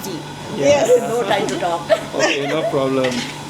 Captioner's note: laugh